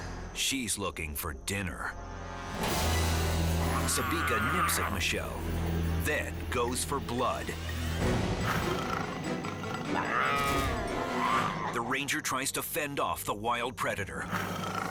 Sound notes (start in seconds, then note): 10.0 Sabika snarls